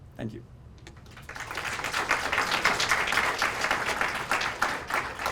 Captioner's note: applause